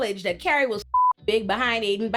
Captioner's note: beep